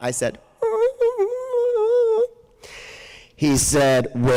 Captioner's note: whimpers